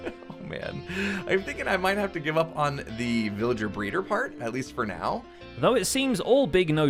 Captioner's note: chuckle